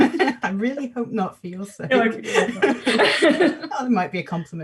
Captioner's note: laughs; laughs